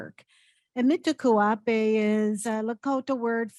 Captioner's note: speaking in indigenous language